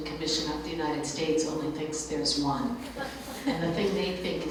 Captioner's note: light laughter